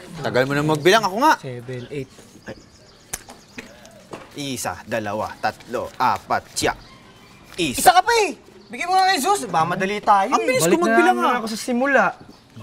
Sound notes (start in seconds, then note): 4.3 in Filipino